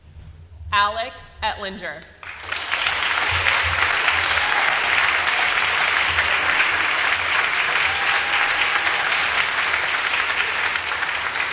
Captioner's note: applause